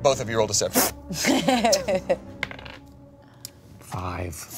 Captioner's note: laughs